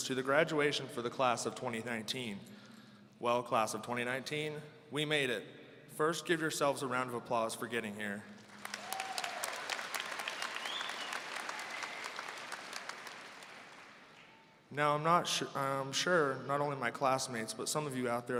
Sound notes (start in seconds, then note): 8.4 audience applauding